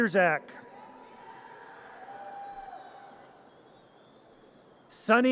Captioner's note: audience cheers